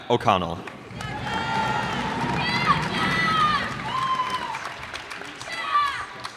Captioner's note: cheers and applause